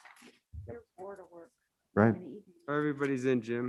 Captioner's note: members chatting